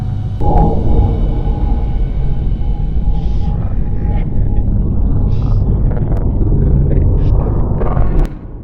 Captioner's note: deep rumbling